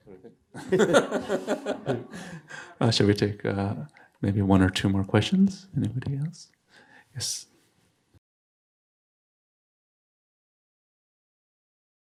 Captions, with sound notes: (speaking in foreign language) (all laughing) Should we take maybe one or two more questions? Anybody else? Yes.